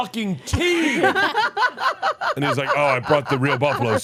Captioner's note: laugh